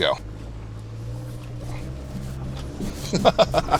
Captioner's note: engine whirring; laughing